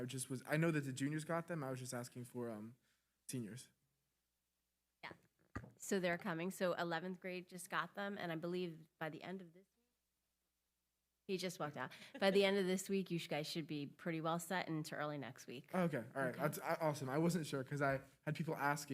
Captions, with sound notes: if there was a delay in the timeline? I just was, I know that the juniors got them. I was just asking for seniors. - Yeah. So they're coming. So 11th grade just got them, and I believe by the end of this, (audio cuts out) he just walked out. By the end of this week, you guys should be pretty well set into early next week. - Oh, okay, all right, awesome. I wasn't sure.